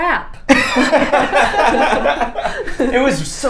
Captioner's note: both laughing